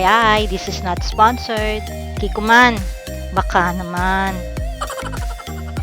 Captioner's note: laughing